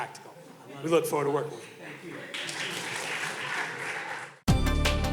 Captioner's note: audience clapping; upbeat energetic music